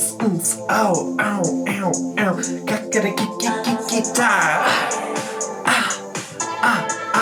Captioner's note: beatboxing to the music; upbeat music; vocalizing